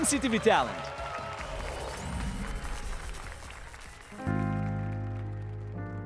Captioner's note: applause and cheers